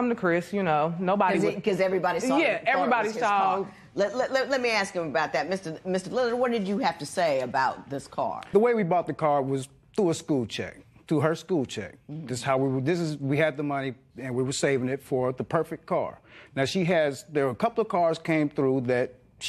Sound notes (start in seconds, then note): none